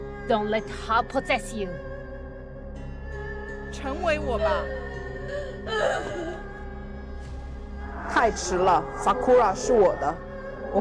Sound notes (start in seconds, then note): 3.9 Malice Voice; 4.1 Sakura sobbing; 4.8 Mandarin language; 8.6 Mandarin language; 10.2 Mandarin language